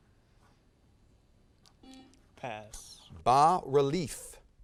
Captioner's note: buzzer sounds